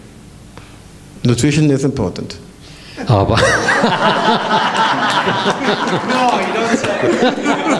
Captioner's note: laughter